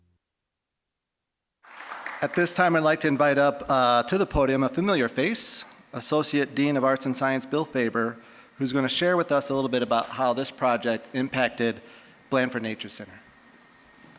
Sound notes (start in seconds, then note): 1.6 applause